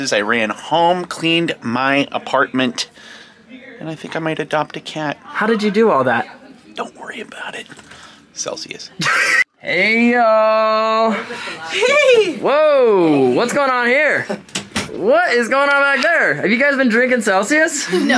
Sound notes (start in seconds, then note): 9.0 laughs; 17.9 all laugh